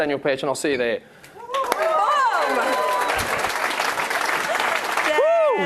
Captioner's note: attendees applauding